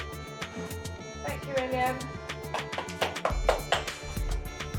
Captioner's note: clapping